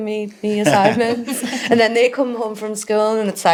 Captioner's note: all laughing